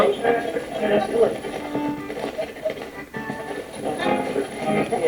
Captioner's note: radio channel changing